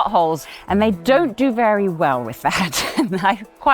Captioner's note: laughs